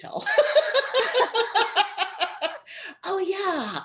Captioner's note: laughter